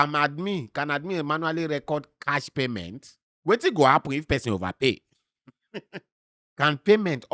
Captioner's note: chuckles